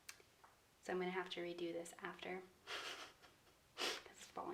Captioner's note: chuckles